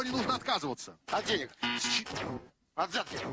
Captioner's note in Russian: пи-пи